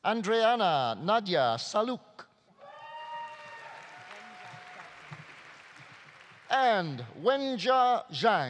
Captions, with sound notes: Andreana Nadia Salouk. (audience applauding) (audience cheering) And Wenjia Zhang.